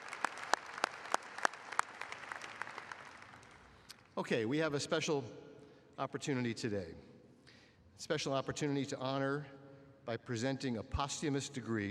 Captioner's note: applause